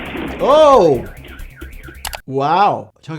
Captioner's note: roof crashing; car alarms wailing